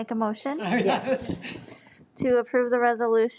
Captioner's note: people laughing